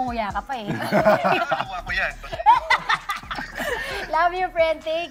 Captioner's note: laughter